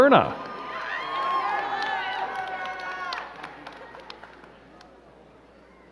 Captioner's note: crowd cheering and clapping